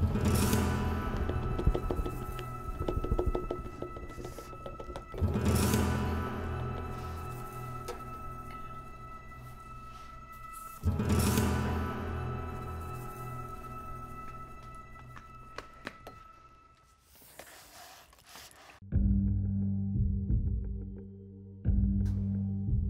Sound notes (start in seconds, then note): 14.3 footsteps; 18.9 suspenseful music